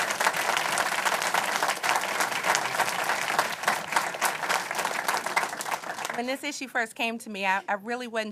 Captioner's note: applause